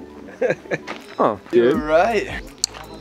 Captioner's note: chuckles